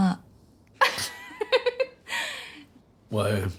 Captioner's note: choking with laughter